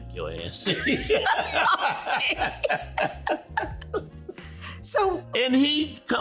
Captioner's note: laughing